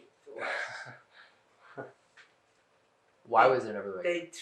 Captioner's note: laughing